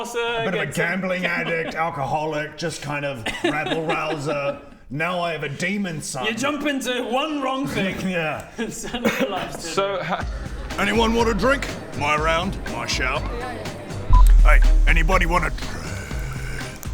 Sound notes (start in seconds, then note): 10.2 party noises